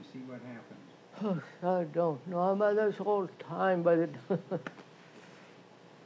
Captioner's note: laughs